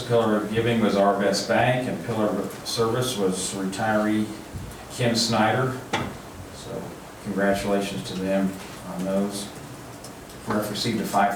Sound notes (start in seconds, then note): none